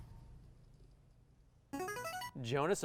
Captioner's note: buzzer